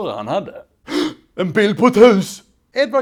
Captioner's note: gasp